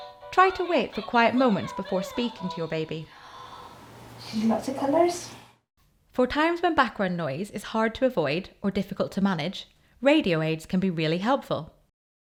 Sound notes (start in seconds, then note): 2.4 music from toy; 3.1 gasps